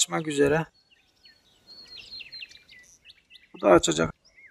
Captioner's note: bird voices